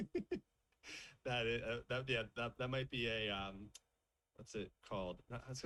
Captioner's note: laughs